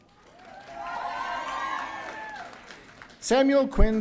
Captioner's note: audience cheering